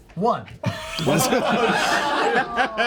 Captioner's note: laughter